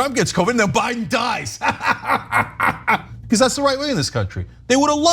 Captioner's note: laugh